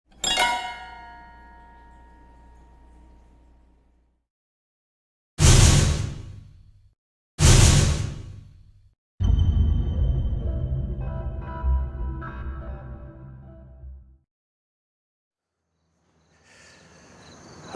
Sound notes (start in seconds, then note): 0.3 eerie piano stings plucked; 5.4 loud bass bangs; 9.2 eerie sounds